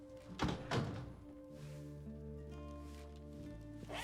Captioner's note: door closes